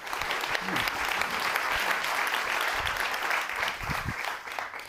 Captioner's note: audience clapping